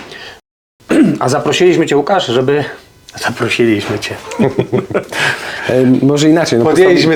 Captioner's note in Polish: śmiech